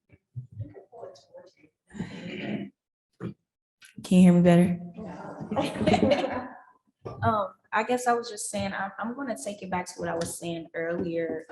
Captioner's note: chuckling